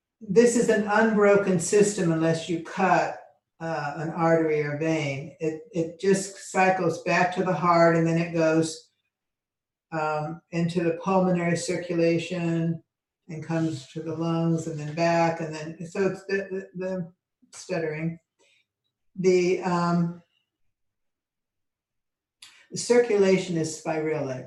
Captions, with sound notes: This is unbroken system unless you cut an artery or vein. It just cycles back to the heart, and then, it goes into the pulmonary circulation and comes to the lungs, and then, back, and then, (speaking faintly), I'm stuttering. The circulation is spiralic